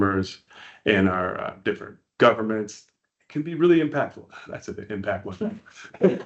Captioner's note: laughing